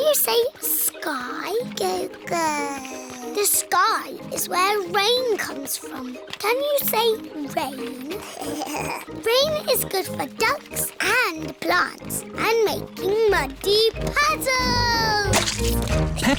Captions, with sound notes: Can you say "sky"? (BABBLES) The sky is where rain comes from. -Can you say "rain"? -(GIGGLES) Rain is good for ducks and plants and making muddy puddles!